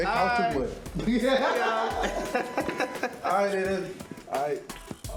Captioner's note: laughs